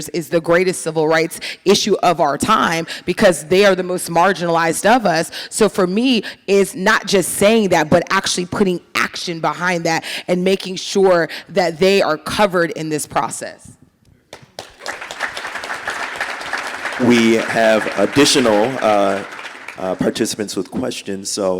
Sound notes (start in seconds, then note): 14.4 audience applauding